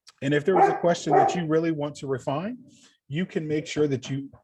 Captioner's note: dog barking